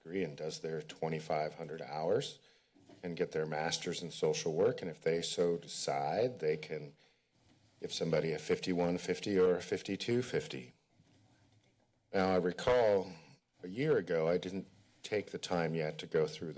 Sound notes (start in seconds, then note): 10.6 pause